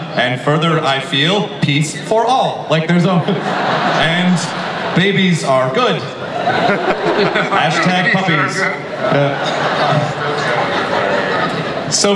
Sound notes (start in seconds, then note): 2.7 audience laughs; 6.2 panel members laugh; 8.8 audience laughs